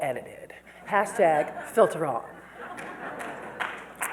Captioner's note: audience laughs